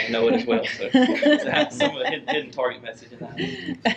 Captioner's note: laughter